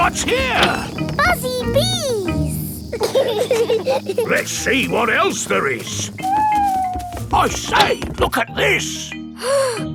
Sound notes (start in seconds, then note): 3.5 bees buzzing; 5.8 owl hooting